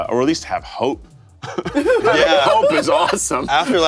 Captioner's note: everyone laughs